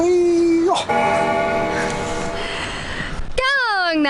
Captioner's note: bell ringing